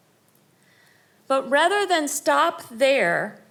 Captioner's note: none